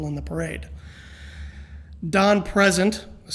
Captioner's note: deep breath